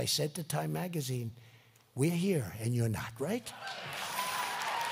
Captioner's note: applause